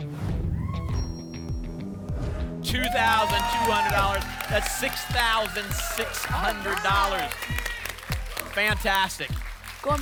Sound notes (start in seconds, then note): 0.1 whoosh; 7.4 applause and cheering